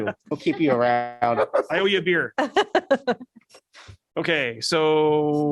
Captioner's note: laughter